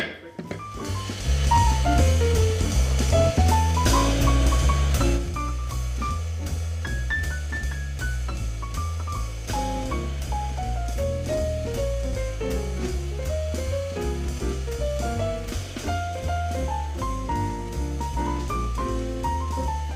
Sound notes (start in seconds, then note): 3.9 sounding gavel